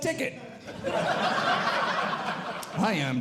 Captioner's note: audience Laughing